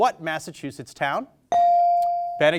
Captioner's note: bell sounding